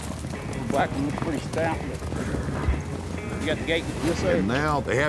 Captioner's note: cowboys chattering